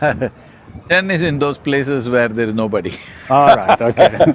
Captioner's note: both laugh; laughs